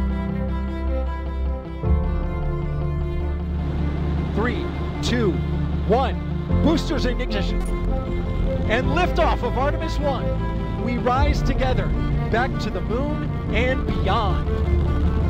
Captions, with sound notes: [roaring engines] 3...2...1... Boosters and ignition! And liftoff of Artemis 1! We rise together back to the moon and beyond.